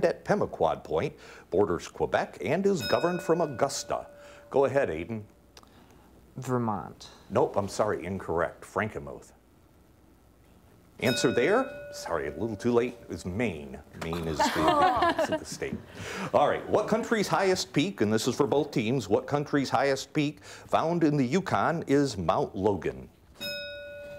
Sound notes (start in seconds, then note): 2.8 bell ringing; 14.1 team laughing; 23.4 bell ringing